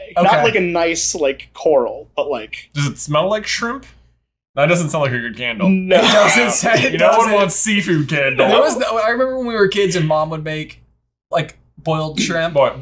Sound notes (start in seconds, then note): 5.9 laughter